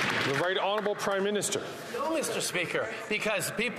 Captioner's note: applause